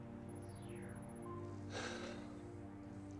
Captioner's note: sigh